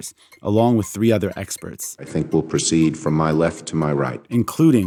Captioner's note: soundbite of archived recording